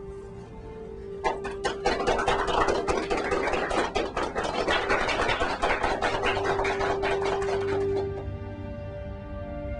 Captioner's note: clapping